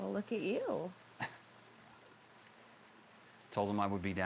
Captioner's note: John chuckles